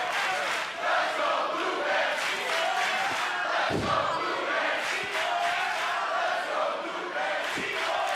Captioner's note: fans chanting